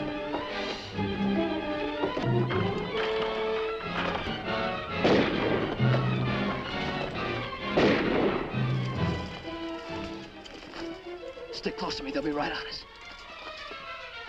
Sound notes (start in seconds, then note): 0.2 dramatic music; 4.8 gun firing; 8.8 dramatic music